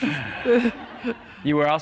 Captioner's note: laughter